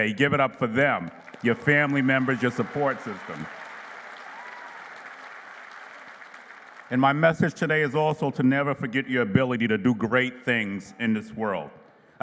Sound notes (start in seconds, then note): 3.8 applause